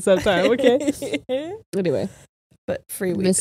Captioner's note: laughs